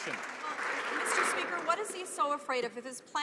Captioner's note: some Applause